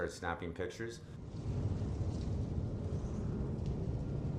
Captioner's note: creepy Howling Wind